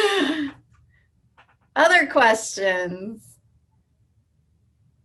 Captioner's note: laugh